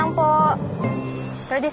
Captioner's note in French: scanner beeps